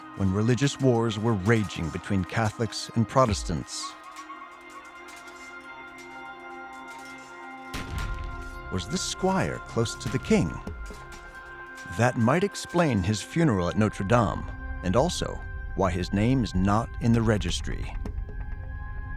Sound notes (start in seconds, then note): 4.8 swords clashing, people yelling